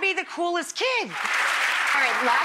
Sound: clapping

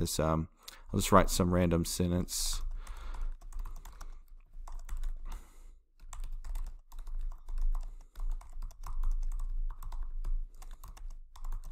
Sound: typing

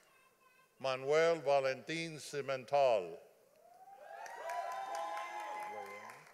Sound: audience applauding

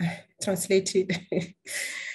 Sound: laughter

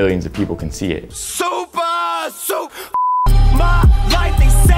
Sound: beep

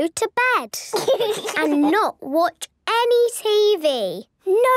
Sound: laugh

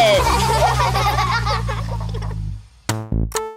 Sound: laughter

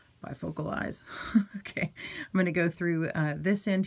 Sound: woman chuckles

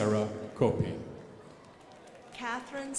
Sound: crowd applauding

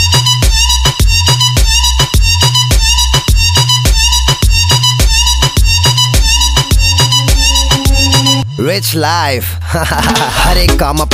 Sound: haha

